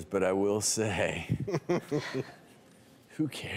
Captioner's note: laughter